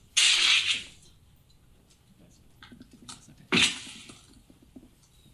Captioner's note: people murmuring